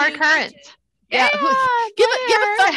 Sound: cheering

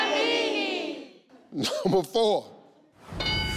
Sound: laughs; screen dings

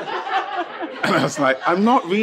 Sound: participants laughing

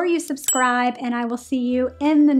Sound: bell dinging

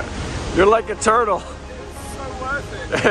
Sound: chuckles

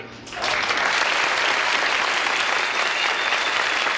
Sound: audience applauds

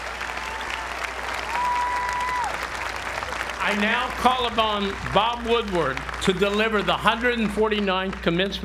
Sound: applause

